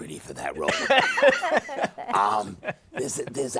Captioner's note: laughter